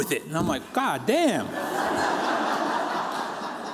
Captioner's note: laughter